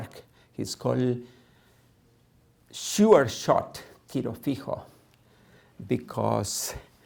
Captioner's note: non-english